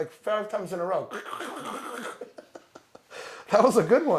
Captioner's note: imitates cracking